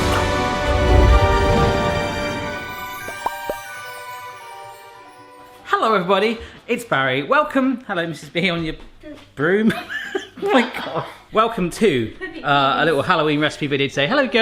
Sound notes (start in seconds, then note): 0.0 mystical music; 9.7 laughs